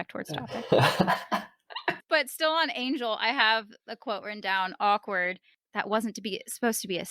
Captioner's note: chuckles